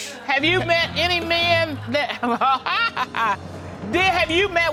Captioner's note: laughs